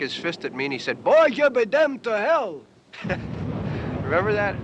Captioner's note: chuckles